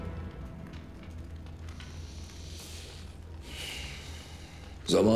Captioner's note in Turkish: Nefes alıp verir